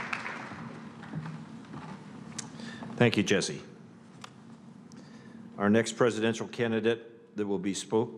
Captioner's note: applause